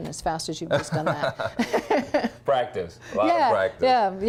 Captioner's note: laughing